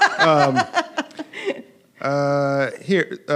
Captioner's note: laughing